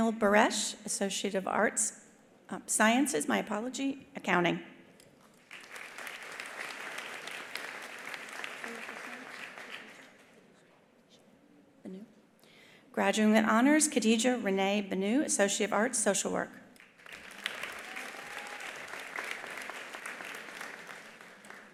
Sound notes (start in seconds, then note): 5.4 attendees applauding; 16.8 attendees applauding; 17.7 attendee cheering